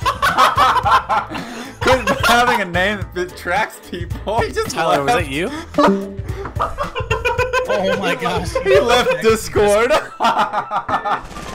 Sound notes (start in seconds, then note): 5.8 discord beep; 6.3 laughs